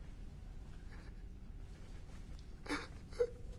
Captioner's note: SOBBlNG